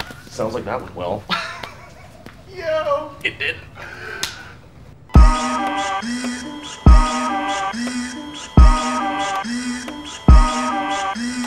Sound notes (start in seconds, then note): 2.7 laughs; 5.1 dramatic hip hop music; 5.2 machine whirs